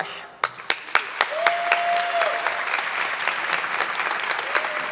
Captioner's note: audience clapping